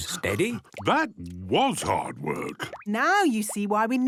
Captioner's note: panting